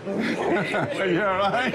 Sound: laughs

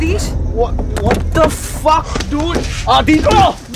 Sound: car door opens

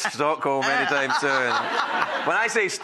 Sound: laughter

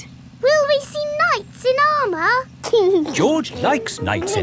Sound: giggling

